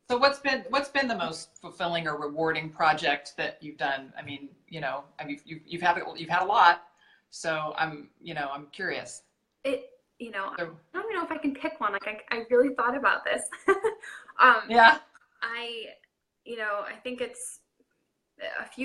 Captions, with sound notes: - So what's been the most fulfilling or rewarding project that you've done. I mean, you know, you've had a lot so I'm curious. - I don't know if I can pick one. I really thought about this. (laughing) - Yeah. - I think it's, a few women stand out